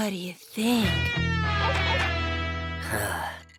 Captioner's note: sighs